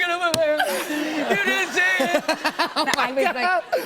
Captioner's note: laughter; voice breaking